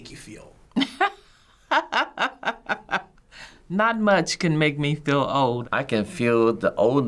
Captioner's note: laughs